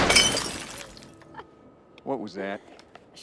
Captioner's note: Joe chuckling